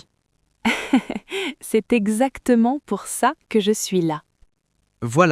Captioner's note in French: rire